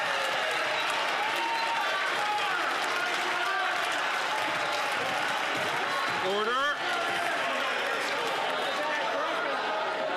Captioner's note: some Applause